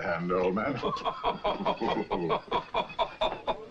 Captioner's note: Ned laughs